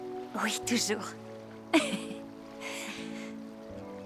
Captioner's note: chuckling